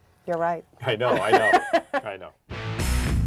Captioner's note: laughing